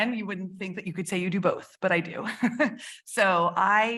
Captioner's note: chuckles